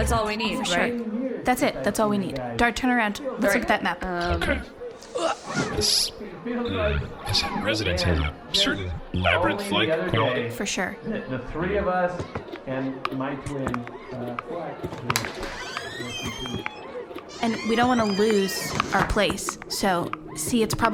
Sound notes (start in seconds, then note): 6.7 grunts; 11.3 over the microphone in the background; 15.0 the door opens as they exit